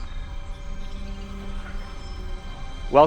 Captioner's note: whoosh; whirring, pinging